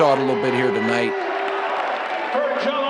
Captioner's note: crowd cheering